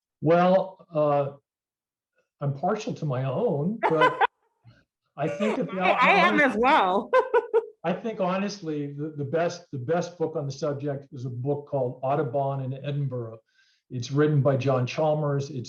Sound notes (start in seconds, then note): 5.2 laughing